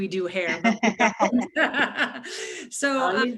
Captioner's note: laugh